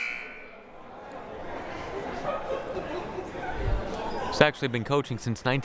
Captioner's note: crowd murmuring